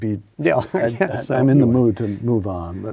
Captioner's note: Paul laughs